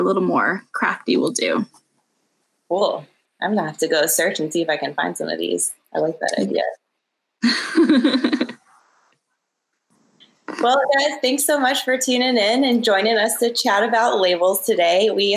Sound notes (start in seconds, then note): 7.4 laughs